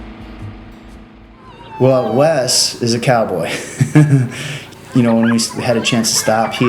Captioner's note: chuckles